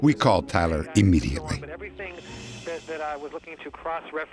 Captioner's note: on phone